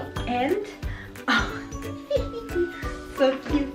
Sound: laughing

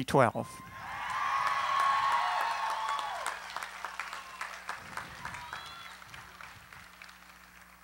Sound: cheering, applause

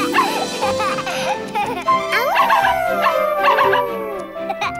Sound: howling and barking; barking

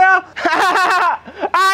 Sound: laughing

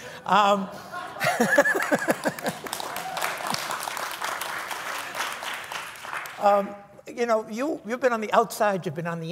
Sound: applause

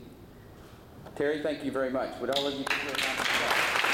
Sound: applause

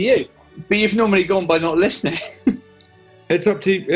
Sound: chuckles

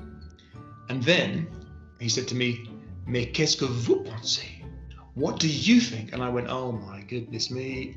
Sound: speaking french

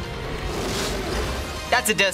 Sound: roaring

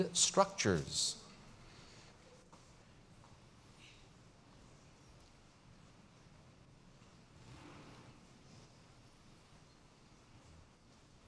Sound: pause

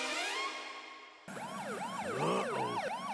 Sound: police siren wailing

